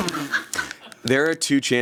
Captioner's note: everyone laughs